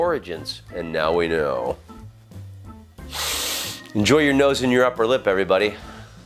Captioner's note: sniff